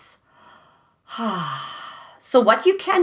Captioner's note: breathes deeply